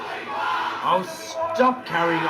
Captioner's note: crowd